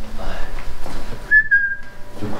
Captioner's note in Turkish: Islık sesi